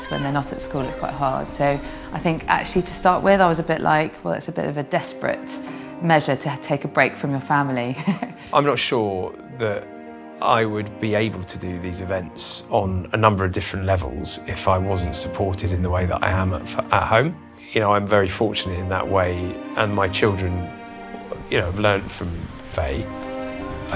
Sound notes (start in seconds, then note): 7.8 laughs